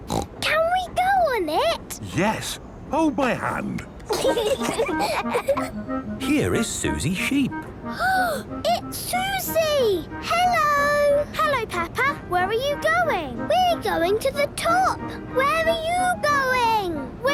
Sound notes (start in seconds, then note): 4.0 children giggling